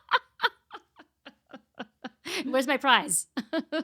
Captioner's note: laughing